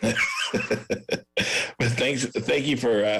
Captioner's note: laughs